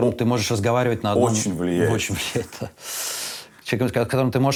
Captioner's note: chuckles